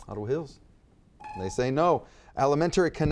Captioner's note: timer beeps